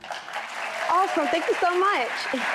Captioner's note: audience clapping